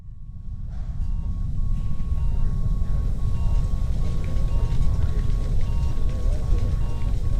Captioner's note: medical machines beeping